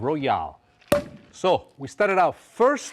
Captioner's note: cork pops